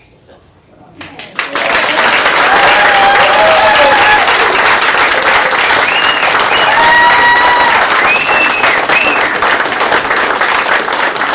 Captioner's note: applause